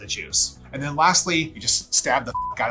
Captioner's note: beep